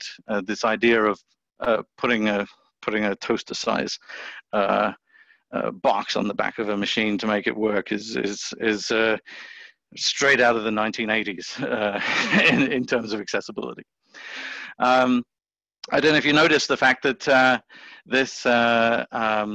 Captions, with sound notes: This idea of putting a toaster-sized box on the back of a machine to make it work is straight out of the 1980s [laughs] in terms of accessibility.